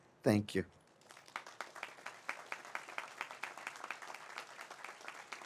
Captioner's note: audience applauds